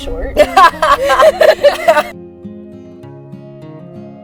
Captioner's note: both laugh